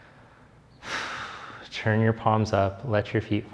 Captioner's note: exhales deeply